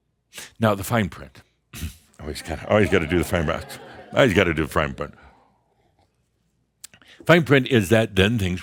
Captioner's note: a few chuckles